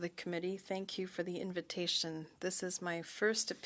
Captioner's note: speaking French